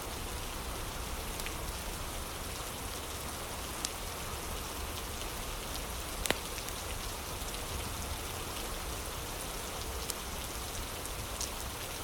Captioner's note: fire crackling